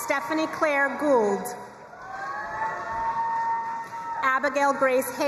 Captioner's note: crowd cheering and applauding